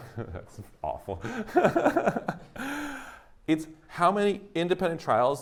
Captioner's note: laughs